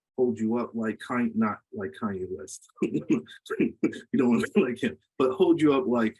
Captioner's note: laughs